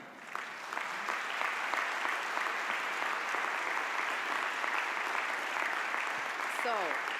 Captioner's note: audience applause